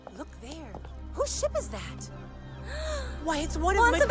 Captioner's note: ines gasps